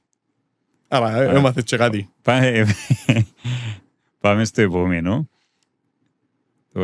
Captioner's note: laughter